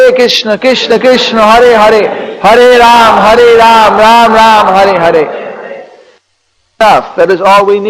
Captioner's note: devotees chants